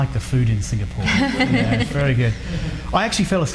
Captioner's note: laughs